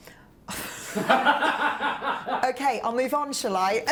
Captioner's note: laughing